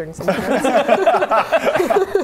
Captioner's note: relatable laughter